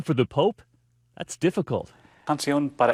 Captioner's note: speaking foreign language